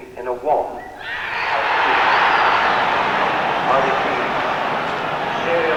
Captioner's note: crowd cheers